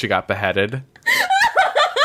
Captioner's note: laughs